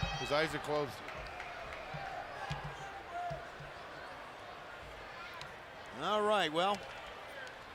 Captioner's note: applause